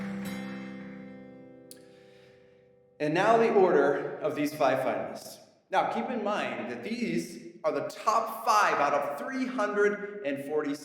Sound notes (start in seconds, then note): none